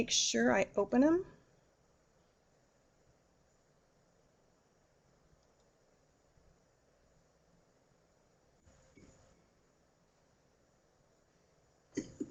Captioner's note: no sound - waiting for poll answers